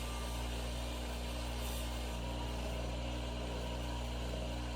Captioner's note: machine whirls